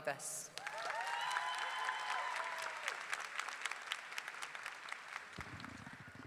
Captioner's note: audience clapping; audience cheering